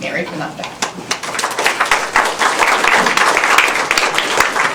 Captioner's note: applause